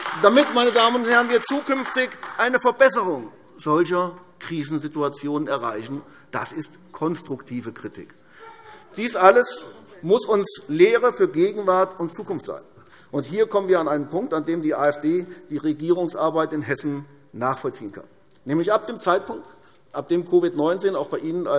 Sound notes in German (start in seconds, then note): 7.9 Lachen SPD